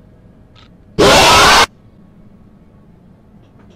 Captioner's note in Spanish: Ruido masivo-n-murciélagos del campanario